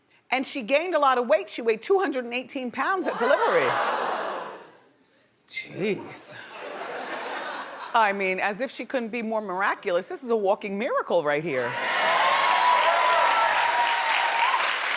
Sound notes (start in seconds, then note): 3.1 audience wows; 6.6 audience laughs; 11.7 audience cheering